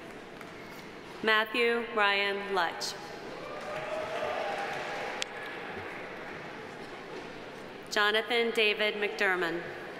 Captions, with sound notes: Matthew Ryan Lutch. (audience applauding) Jonathan David MacDurmon.